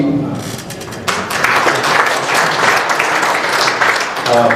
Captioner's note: applause